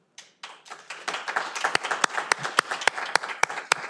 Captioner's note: audience applauding